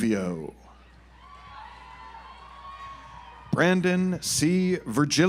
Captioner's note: audience applauds